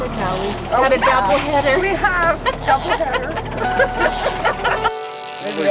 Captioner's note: laughter